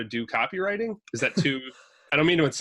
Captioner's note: laughs